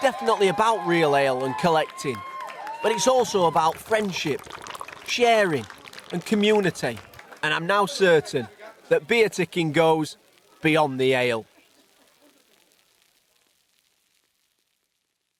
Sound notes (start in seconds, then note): 11.1 beer fizzing